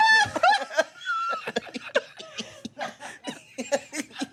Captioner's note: everyone laughs